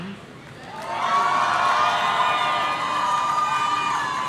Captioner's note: audience cheering